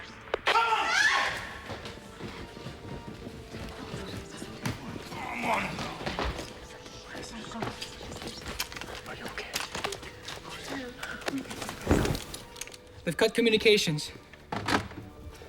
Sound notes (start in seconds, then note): 0.5 woman screams; 9.0 whispering